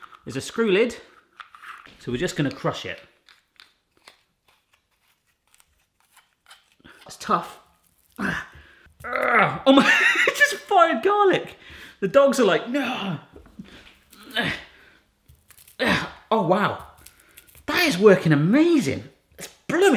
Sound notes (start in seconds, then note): 2.9 garlic crunching; 9.0 grunts; 9.6 laughs; 14.2 grunts